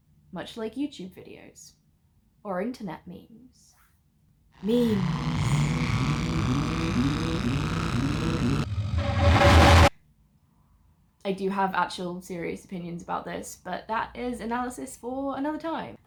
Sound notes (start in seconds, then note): 4.6 distorted noises, rising in volume then sharply falling silent